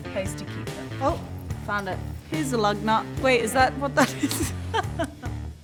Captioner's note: laughs